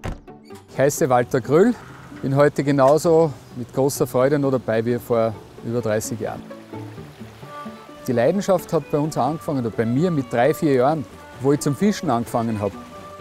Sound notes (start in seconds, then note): 6.9 sound of freshwater